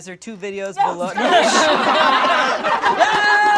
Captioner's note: all laugh; cheers